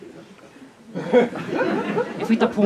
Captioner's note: laughter